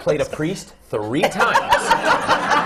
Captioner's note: laughter